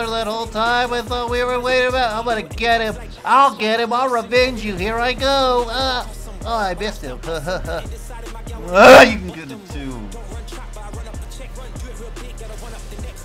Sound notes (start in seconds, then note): 0.0 Absolute Cheeto voice; 6.6 nervous laughter; 8.6 grunt of the ancients